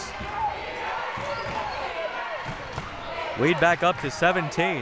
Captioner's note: clapping